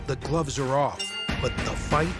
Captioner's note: bell ringing